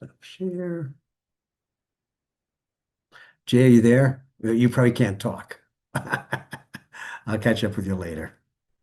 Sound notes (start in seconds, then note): 5.9 laughs